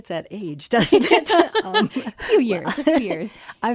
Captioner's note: laughing